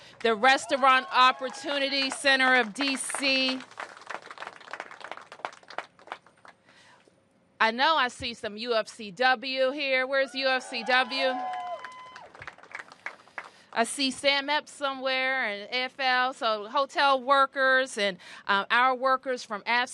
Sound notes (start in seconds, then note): 12.6 applause